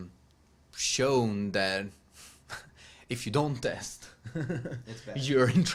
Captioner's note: laughs